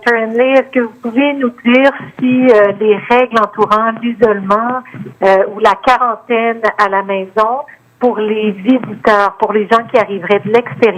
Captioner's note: speaking french